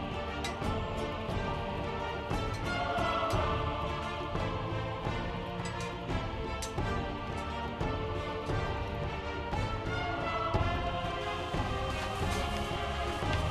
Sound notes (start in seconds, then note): none